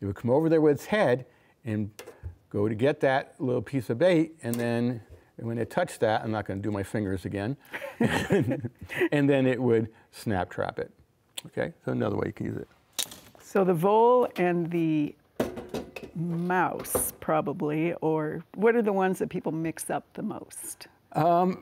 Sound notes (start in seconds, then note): 7.7 laughter